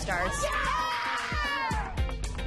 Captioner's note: all cheering